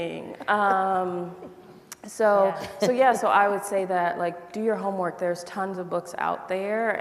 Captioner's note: laughter